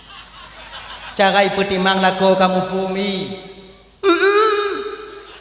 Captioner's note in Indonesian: tertawa